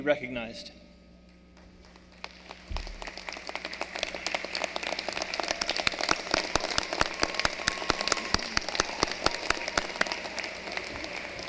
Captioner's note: applause